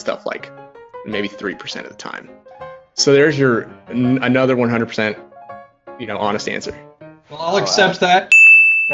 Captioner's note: sound: Ding